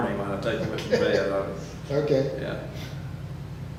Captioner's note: laughs